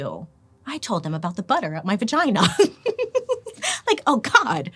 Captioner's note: laughs